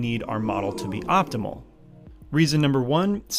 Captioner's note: computer-generated sighing